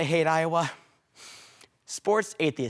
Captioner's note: deep breaths